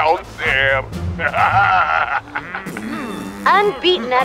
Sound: laughing

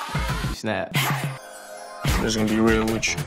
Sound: twinkling

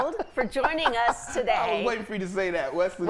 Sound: laughing

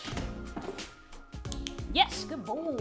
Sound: clicking

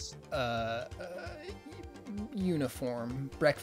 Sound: stammering

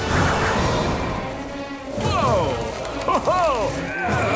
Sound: chuckles

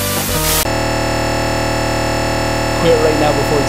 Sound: glitchy video game music; video game buzzing

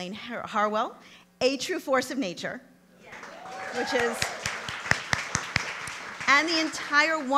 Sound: applause

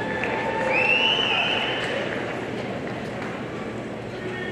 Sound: audience cheering

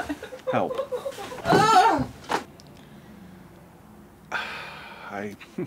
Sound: Poli yelling; chuckles

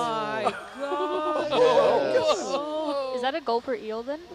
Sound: all laugh

